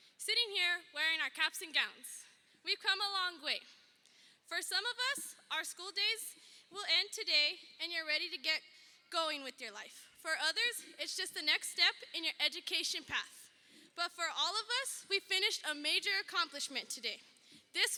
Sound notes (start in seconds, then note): none